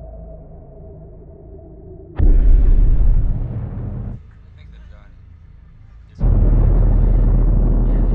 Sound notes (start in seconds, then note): 2.5 engine rumbling